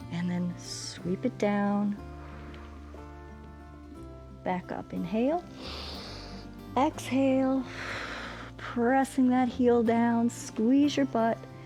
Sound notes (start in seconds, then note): 2.0 exhales; 5.5 inhales; 5.5 exhales